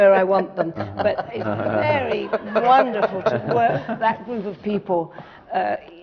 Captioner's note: laughter